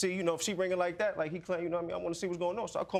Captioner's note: stammers